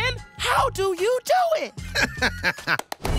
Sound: laughing

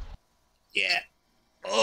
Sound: old man voice

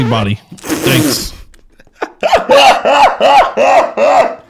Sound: laughing

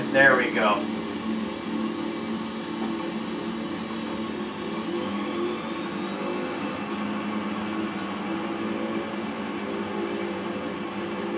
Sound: engne throttles-up

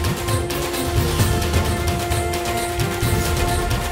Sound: conch blowing

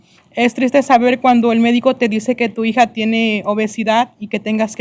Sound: speaking spanish

